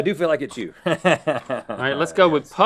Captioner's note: laughing